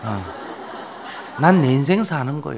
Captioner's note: audience laughter